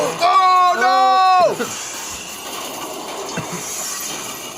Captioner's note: metal crushing